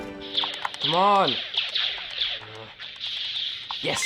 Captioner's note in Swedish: elektroniskt pipande